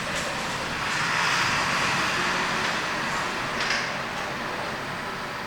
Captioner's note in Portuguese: ruído de ônibus